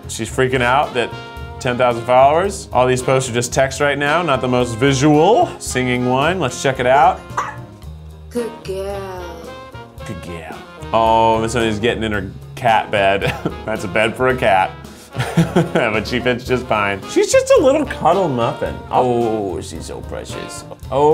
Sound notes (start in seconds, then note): 7.4 Missoni barking; 15.2 laughs